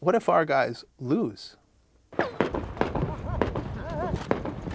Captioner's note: gunshots